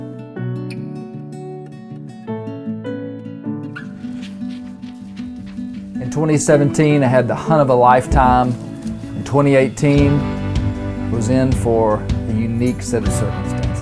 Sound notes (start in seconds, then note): 0.3 questing music; 3.8 leaves rustling